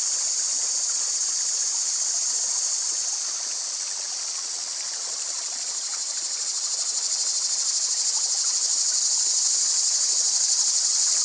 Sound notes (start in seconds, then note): 0.0 cicadas; 5.7 water, crickets; 10.3 water, birds chirping